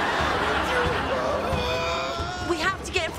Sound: groaning

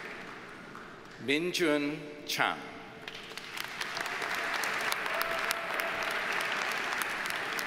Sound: audience cheers and applauds

